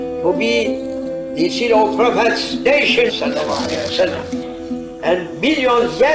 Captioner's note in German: saws